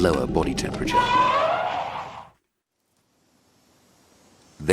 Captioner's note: elephant roaring